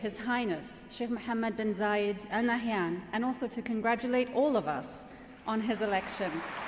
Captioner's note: applause